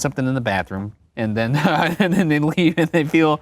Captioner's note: laughs